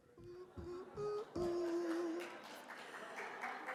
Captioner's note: hums